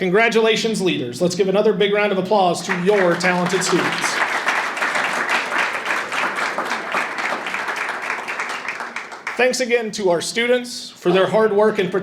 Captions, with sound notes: Congratulations leaders. Let's give another big round of applause to your talented students. (audience applauding) Thanks again to our students for their hard work